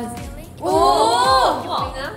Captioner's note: oohh~